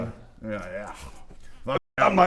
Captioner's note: nom